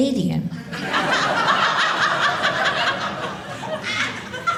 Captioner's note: audience laughing